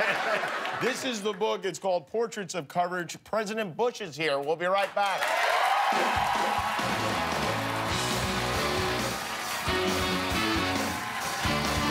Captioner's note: laughter